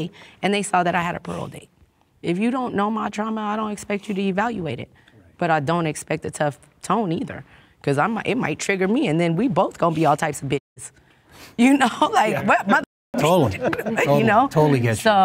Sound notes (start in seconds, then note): 13.2 laughs